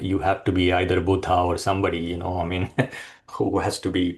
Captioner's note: chuckles